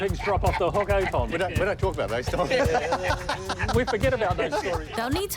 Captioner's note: laughter